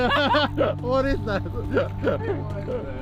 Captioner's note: all laughing